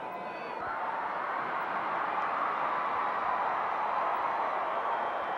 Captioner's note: audience cheering continues